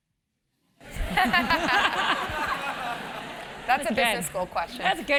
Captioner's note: laugh